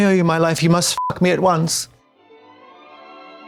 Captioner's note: beep